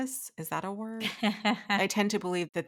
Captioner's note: laughing